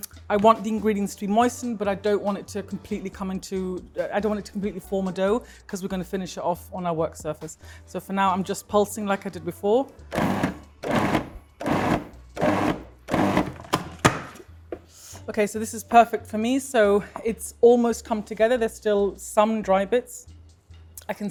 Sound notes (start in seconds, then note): 10.1 blender whirs; 13.1 lid taps